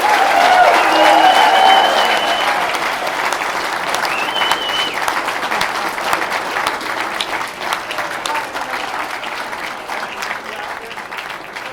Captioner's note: applause